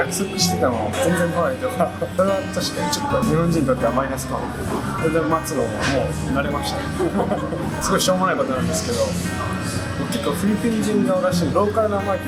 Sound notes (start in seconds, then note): 6.3 laughs